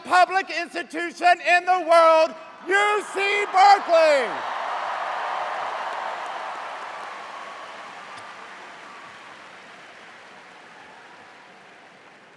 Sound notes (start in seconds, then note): 4.2 cheers